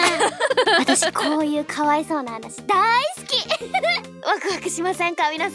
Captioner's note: laughs